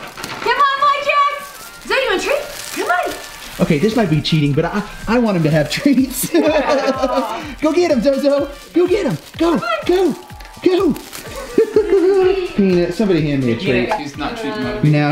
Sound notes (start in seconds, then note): 5.6 laughs; 9.9 laughs